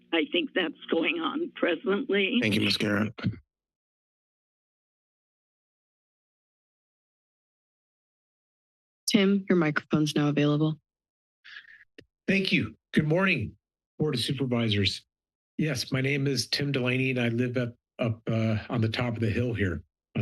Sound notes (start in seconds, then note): 3.6 silence